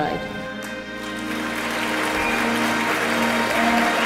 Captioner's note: applause